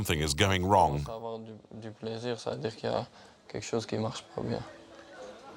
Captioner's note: French spoken audio